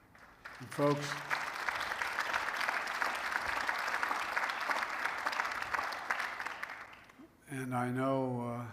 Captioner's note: applause